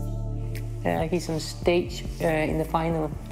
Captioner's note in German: englisch